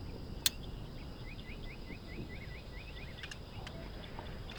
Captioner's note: gun clicking